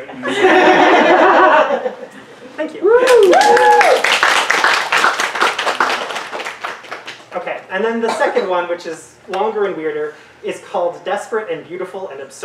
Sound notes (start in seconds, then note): 0.2 audience laughter; 3.1 audience applause and snaps